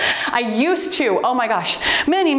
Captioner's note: timer beeps